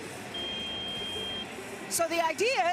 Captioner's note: ringing